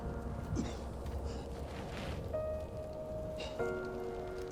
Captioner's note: melancholy instrumental music; Tony coughs